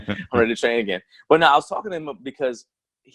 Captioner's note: laughs